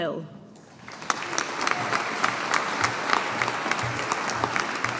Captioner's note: audience applauding